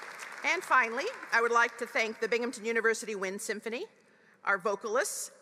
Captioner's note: applause